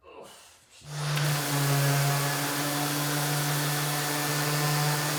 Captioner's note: sander whirring